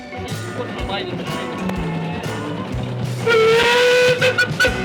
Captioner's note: moody rock music; steam siren wailing